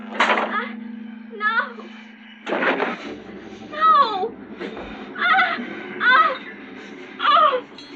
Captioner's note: screaming